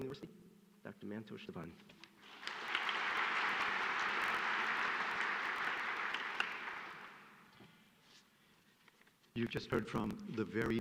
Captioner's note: applause